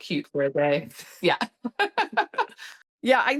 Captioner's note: laughs